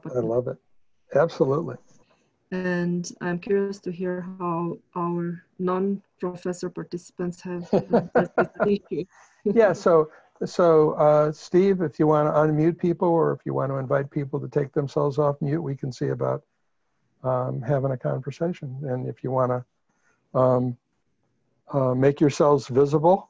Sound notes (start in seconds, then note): 9.4 laughs